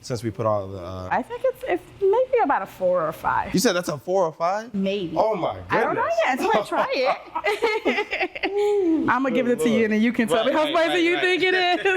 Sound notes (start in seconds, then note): 7.4 laughing